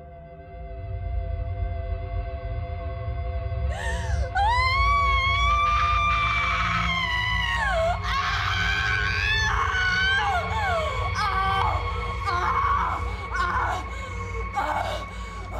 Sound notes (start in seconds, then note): 3.7 gasps; 4.6 screaming